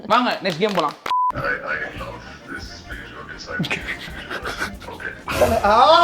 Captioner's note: speaking on call